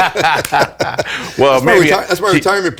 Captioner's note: laughing